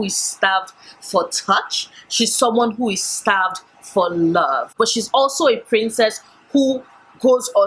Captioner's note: none